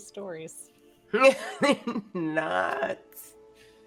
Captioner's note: laughing